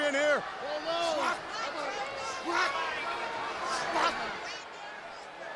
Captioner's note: wrestlers grunting